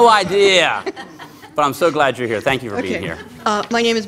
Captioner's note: laughter